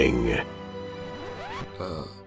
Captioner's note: record scratch